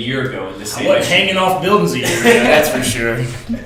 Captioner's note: laughs